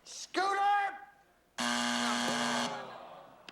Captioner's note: buzzer